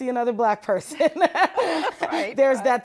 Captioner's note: laughter